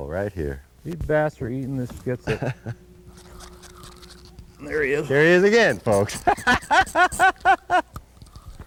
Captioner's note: laughter